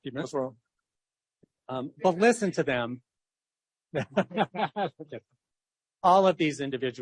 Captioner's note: laughs